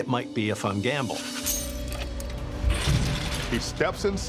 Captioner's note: metal clinks